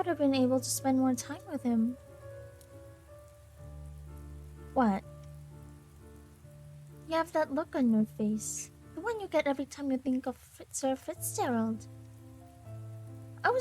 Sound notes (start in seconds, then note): none